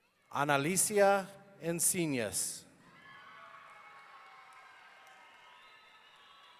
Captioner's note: audience cheering